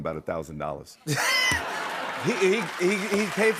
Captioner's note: laughter